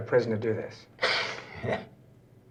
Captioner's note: laughs